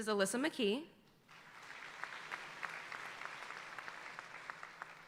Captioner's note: audience applauding